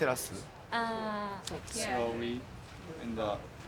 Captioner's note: in English